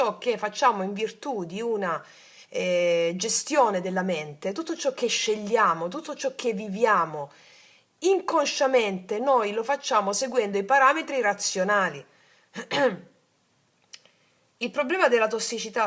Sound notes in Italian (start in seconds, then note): 12.6 schiarire la voce